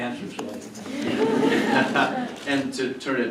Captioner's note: laughter